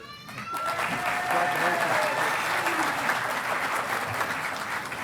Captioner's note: audience applauding